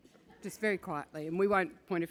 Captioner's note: laugh